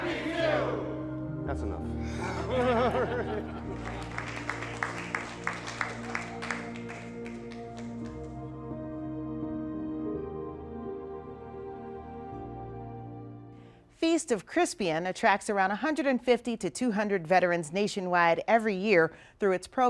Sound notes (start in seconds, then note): 6.4 applause